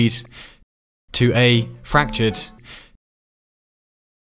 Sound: breath

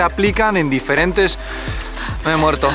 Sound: gasps to speak

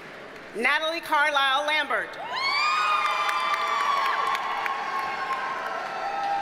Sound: audience cheers and applauds

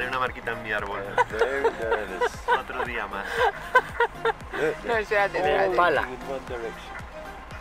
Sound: laughs

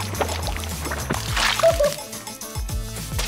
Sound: laughing

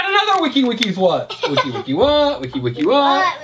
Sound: assistant laughs

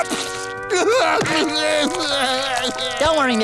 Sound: crying

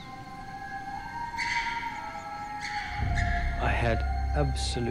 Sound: bird squawking

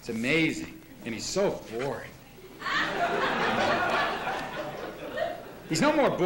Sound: laughter

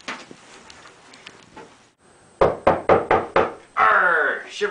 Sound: knock at door

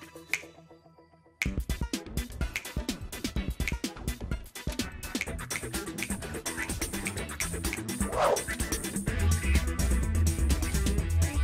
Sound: snaps fingers rhythmically

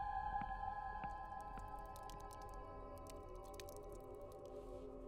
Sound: blood dripping

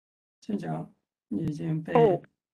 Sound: speaks in Mandarin

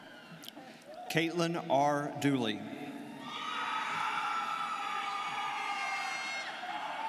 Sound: students cheering

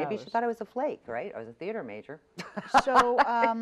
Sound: laughs

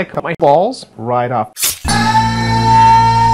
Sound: slice sound

